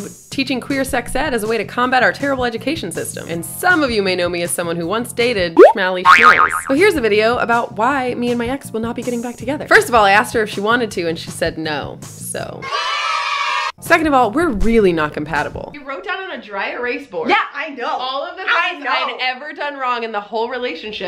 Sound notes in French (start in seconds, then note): 12.6 cris d'enfants joyeux